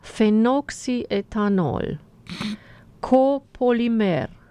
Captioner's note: snoring